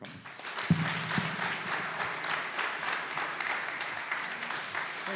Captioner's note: audience clapping